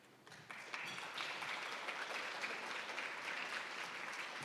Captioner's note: attendees applauding